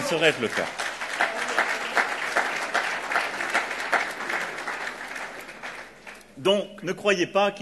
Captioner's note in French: Applaudissements